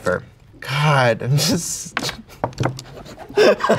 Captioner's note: laughing